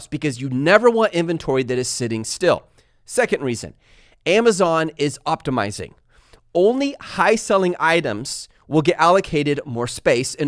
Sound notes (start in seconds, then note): none